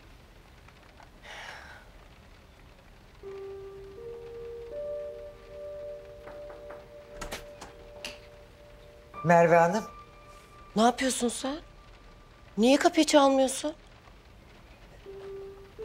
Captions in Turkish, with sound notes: (İç çekti) (Kapı vuruldu) (Kapı açıldı) -Merve Hanım? -Ne yapıyorsun sen? Niye kapıyı çalmıyorsun?